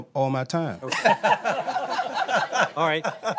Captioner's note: laughter